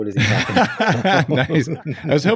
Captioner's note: laughs